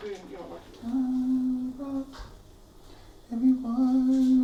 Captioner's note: humming